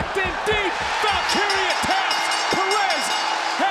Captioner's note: bell rings